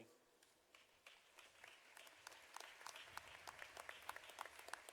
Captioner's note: audience applauding